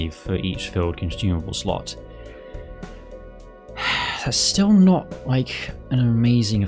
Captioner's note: sigh